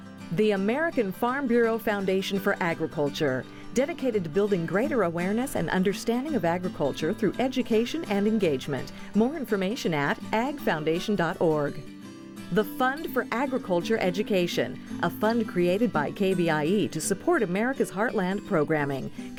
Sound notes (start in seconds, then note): none